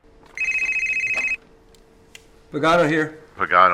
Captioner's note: phone rings